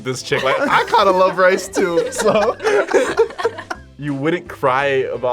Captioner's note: both laugh